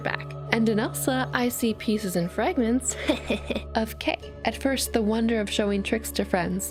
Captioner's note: hahaha